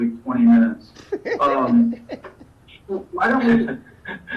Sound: laughs

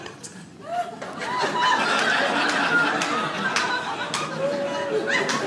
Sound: audience laughs

